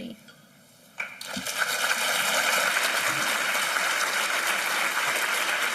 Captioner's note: applause